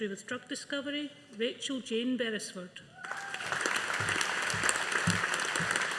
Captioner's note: audience applauding